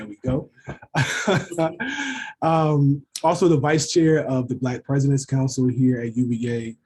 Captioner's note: laugh